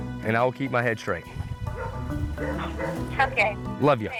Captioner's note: dog barking